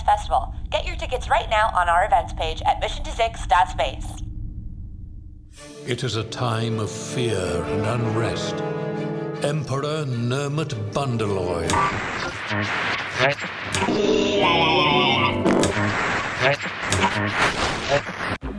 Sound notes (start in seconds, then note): 5.5 orchestral main theme music begins; 11.5 narrator is abruptly cut off by static